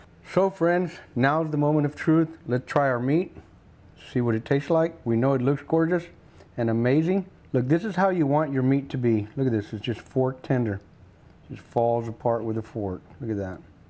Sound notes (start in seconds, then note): none